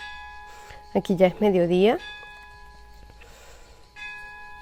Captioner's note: ringing bells